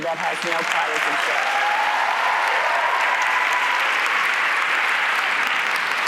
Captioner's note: audience applauds and cheers